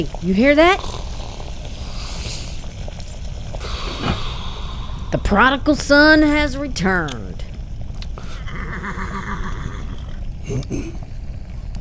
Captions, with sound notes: Hey...you hear that? [The Prospector snores] The prodigal son has returned. [horse nickering outside] [The Prospector clears throat]